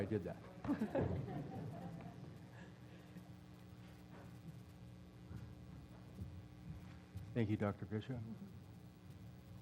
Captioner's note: laugh